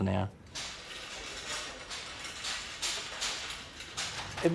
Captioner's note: trolley rattling